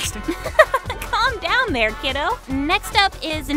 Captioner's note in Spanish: ríe